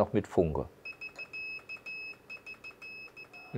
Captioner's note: beeps of varying lengths